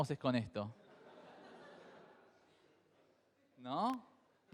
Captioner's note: crowd laughs